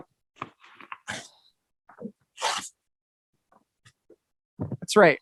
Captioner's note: paper tearing